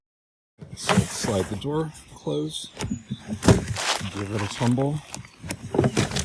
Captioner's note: sliding noise; tumbling noises